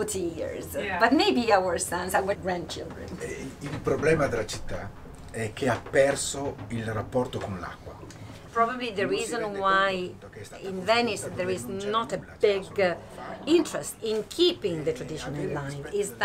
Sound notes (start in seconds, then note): 3.3 italian is being spoken